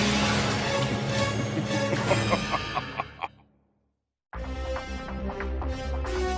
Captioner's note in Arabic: كرونوس يضحك